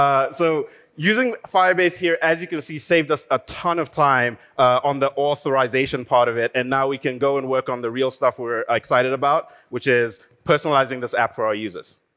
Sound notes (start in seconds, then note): none